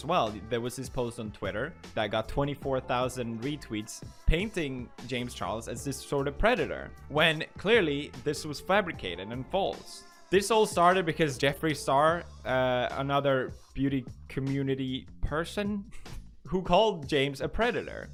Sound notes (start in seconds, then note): 15.8 snicker